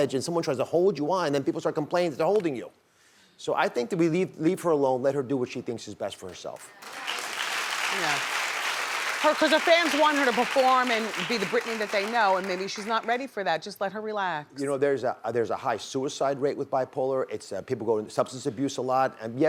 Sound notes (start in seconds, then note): 6.6 audience applause